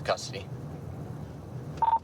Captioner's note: radio beeps